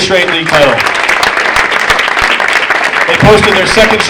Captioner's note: audience applauding